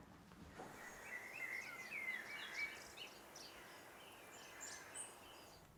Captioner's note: birds chirping